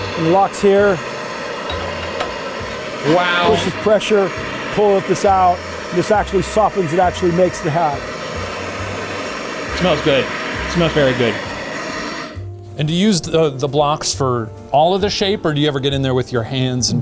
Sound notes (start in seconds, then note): 1.6 metal clinking; 3.5 steam hissing; 10.1 steam hissing continues; 11.8 upbeat music